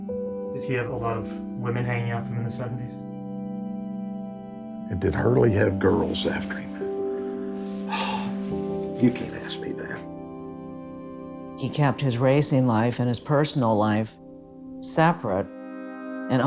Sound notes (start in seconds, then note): 7.6 sighing